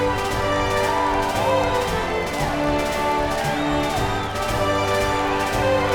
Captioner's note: cheering and applauding